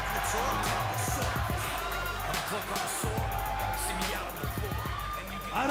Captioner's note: cheers and applause